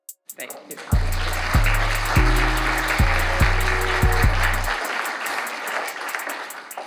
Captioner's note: audience applauds